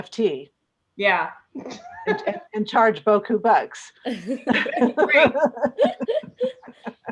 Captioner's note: laughter